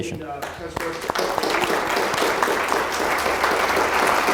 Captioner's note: applauding